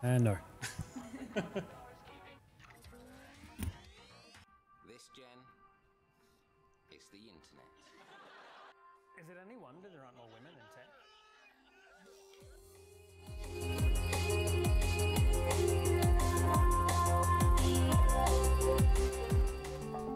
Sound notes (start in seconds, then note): 0.6 laughs; 3.3 electrical music; 7.8 audience laughs; 12.5 upbeat music